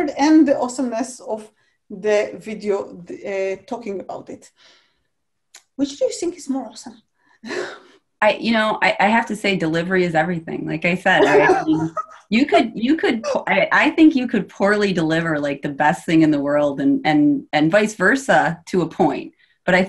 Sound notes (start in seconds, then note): 7.7 chuckles; 11.2 laughs